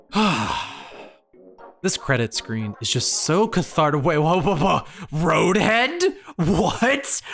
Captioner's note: sigh